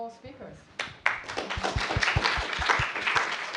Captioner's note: applause